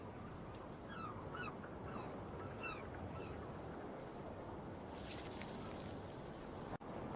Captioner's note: birds Chirping